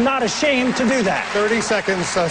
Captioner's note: applause